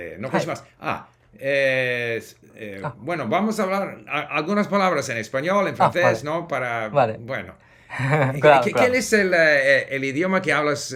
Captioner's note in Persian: اسپانیایی صحبت می کند